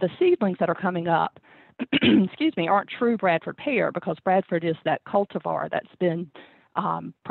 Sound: clears throat

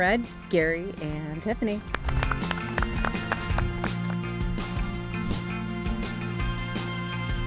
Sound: upbeat music; participants clapping

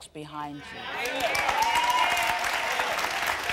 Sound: applause

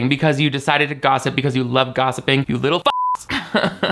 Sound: beep; laughs

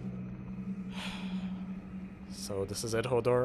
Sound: deepest of sighs

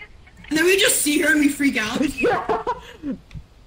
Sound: laughs

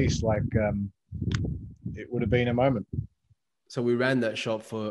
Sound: snaps

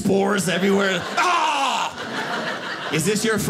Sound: loud coughing

